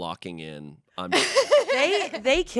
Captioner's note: laughs